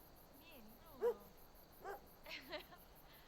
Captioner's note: dog barks